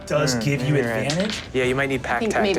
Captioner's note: dice rolling